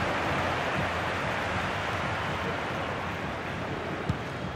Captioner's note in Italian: Applauso